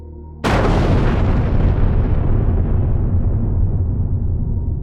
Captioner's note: thunderous explosion